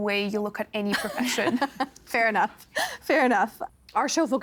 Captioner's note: chuckling